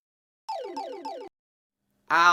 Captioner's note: respawn sound